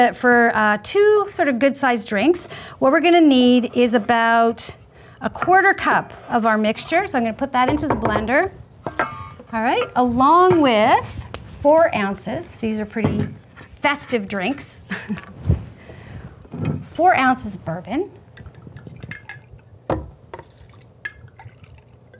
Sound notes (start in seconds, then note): 14.8 chuckling